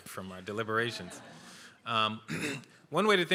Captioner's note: laughter